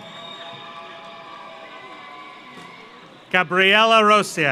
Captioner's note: audience applauds; audience cheers